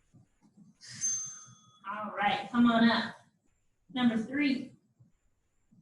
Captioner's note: ding